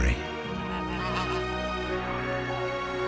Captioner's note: honking